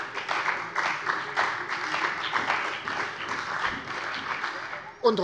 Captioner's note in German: Beifall bei der CDU und dem BÜNDNIS 90/DIE GRÜNEN